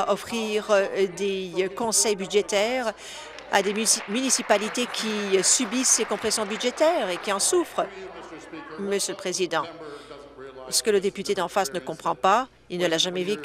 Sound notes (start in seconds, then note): 6.0 applause